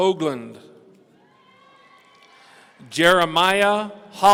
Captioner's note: audience cheering